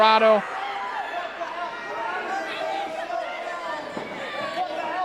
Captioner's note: crowd clamoring